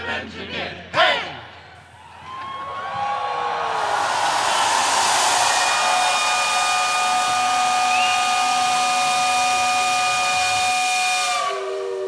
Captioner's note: cheers and applause and the whistle